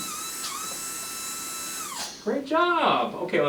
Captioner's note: brush whirring